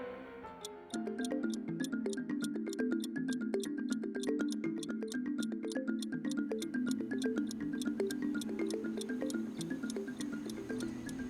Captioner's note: clock Ticking